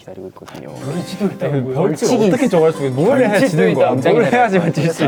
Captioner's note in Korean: 술렁이는 장내